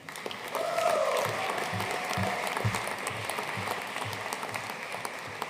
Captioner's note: audience cheering and applauding